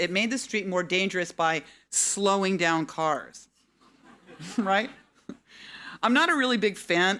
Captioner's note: audience laughing